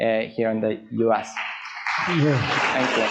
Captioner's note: audience applauds